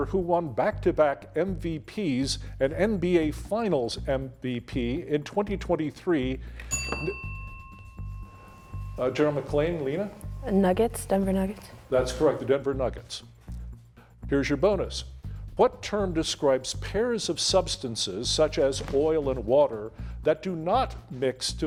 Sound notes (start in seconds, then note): 6.6 bell ringing